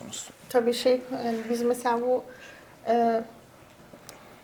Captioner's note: speaks in Turkish